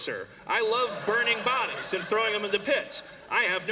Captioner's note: laughter